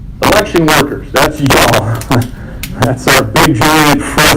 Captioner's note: laughs